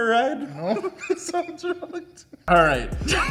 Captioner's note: laughs